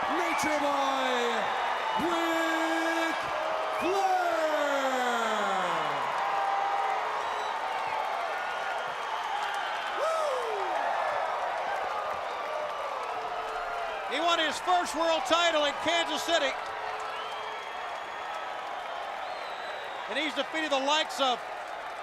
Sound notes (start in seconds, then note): 5.6 crowd cheering